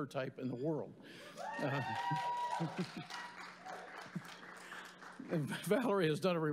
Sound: cheers; applause

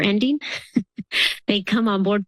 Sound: laughs

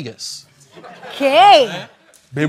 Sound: spanish

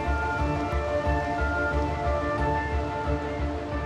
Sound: rain patters

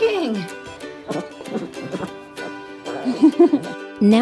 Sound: Dash grumbles

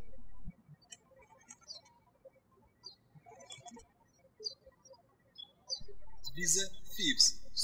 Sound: birds chirping

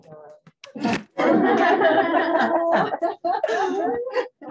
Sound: laughter

